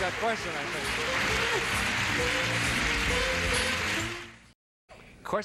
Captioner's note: audience applauds